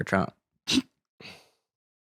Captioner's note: snorts